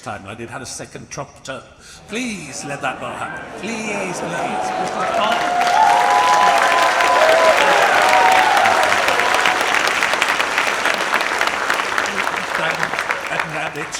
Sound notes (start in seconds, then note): 3.4 audience murmuring; 5.8 audience applauds and cheers